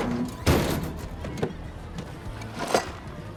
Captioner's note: metal clanging